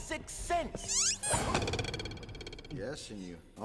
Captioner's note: twang